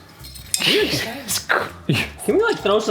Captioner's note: laughing